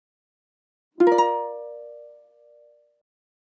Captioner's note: chime ringing